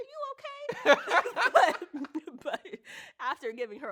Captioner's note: both laugh